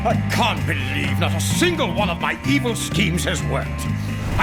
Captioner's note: grunting sound